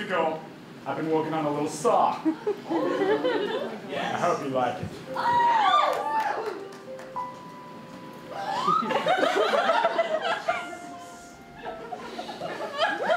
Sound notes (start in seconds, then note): 5.1 audience cheering; 8.6 audience laughing